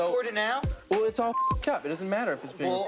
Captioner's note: beep